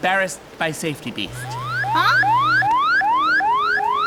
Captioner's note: beep beep